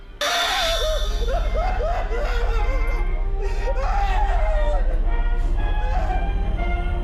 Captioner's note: sudden ominous music; victim shrieking; cheerful 1920's music